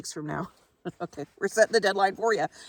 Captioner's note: chuckles